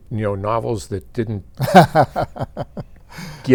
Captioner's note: laughing